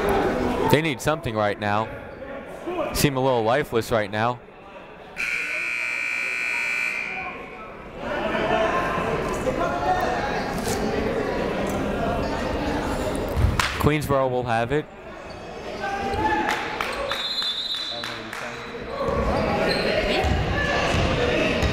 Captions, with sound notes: They need something right now. Seem a little lifeless right now. (buzzer ringing) (chatting) Queensborough will have it. (shouting) (whistle blowing)